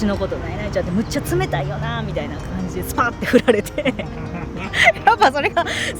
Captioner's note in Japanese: 笑い